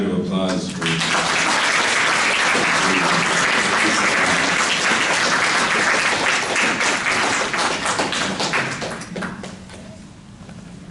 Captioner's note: audience applause